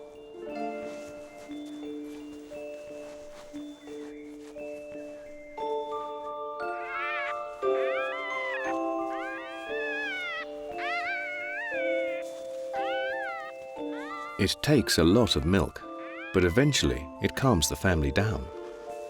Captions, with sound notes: [pup whining] It takes a lot of milk, but eventually it calms the family down.